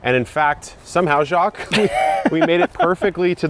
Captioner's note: laughing